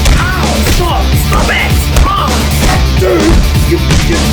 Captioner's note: blood and metal noises heard during punching